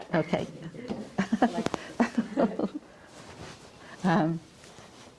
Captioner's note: chuckles